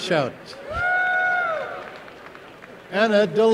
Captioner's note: applause and cheering